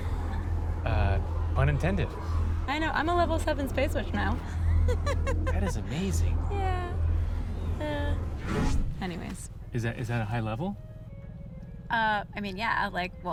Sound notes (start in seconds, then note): 4.4 laughs